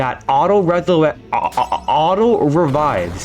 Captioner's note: stutter Moment